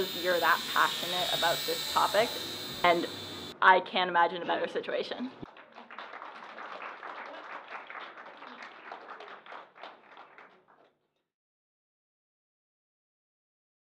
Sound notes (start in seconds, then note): 5.4 applause